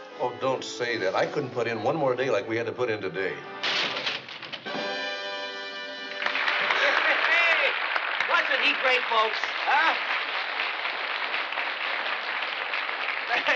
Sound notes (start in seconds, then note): 3.6 boards breaking; 6.3 applause